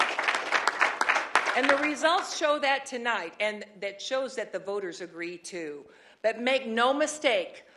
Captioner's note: applause